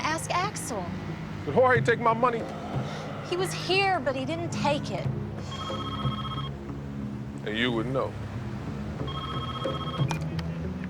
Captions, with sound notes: Ask Axel. Did Jorge take my money? He was here, but he didn't take it. (phone rings) And you would know. (ringing continues)